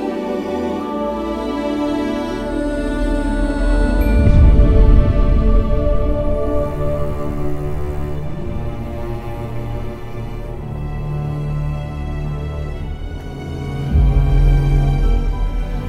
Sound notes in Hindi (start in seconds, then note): none